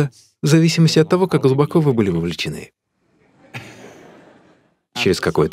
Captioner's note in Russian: Смех